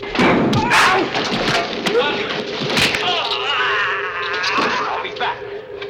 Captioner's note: thudding; groaning